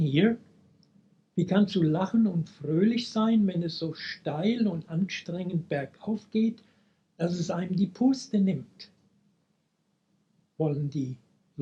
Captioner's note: speaking German